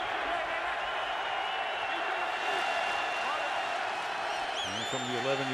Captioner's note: crowd cheering